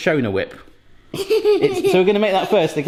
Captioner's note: giggles